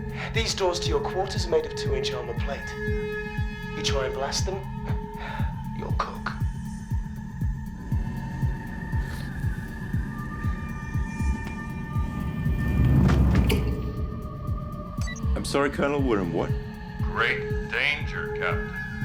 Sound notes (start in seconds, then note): 5.9 chuckles; 12.8 thuds